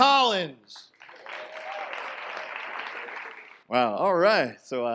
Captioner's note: audience applause